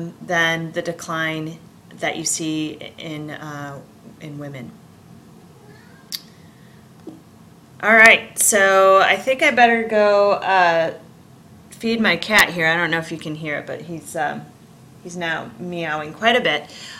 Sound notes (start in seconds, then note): 5.5 cat meowing